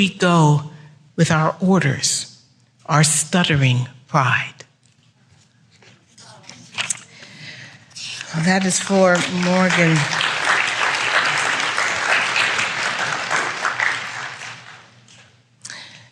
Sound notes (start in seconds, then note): 10.3 applause